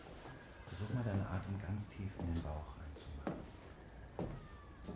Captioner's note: doctor's voice, muffled